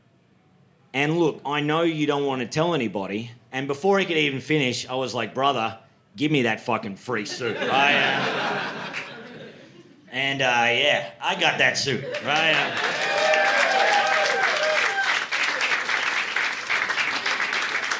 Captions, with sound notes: And look, I know you don't wanna tell anybody. And before he could even finish, I was like, "Brother, give me that fucking free suit." (audience laughing) And yeah, I got that suit, right? (audience cheering)